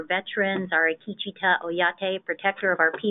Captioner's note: speaking in a foreign language